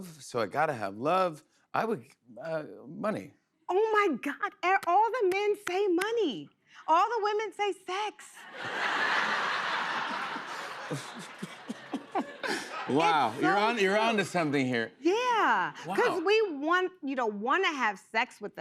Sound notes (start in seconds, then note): 8.4 laughter